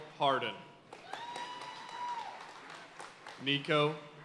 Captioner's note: audience cheering and applauding